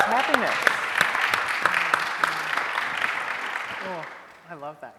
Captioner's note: audience applauding